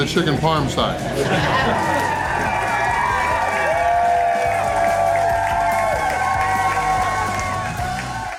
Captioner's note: crowd clapping and cheering